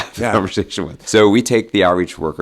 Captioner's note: chuckles